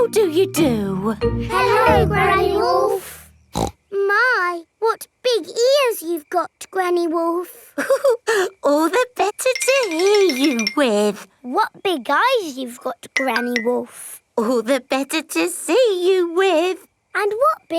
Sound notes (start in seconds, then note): 3.5 snorts; 7.8 chuckles